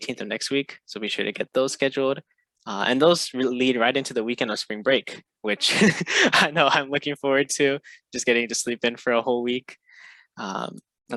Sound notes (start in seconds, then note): 5.6 laughs